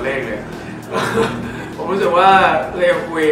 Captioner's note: laughs